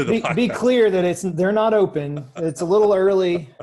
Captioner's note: laughs